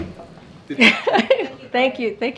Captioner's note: laughs